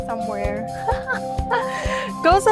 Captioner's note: laughs